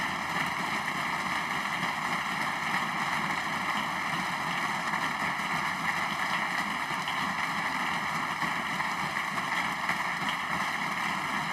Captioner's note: applause